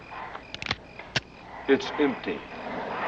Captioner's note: gun cocking